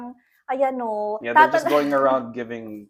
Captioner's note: laughter